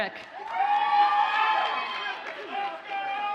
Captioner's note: audience cheers and applauds